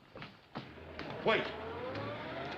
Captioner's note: car starting